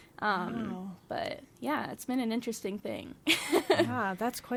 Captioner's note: laughs